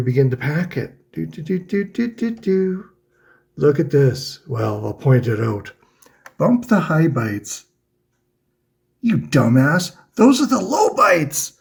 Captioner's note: happy noises